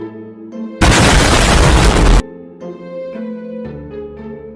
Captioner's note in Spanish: Explota algo